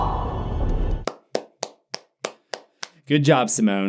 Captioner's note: clapping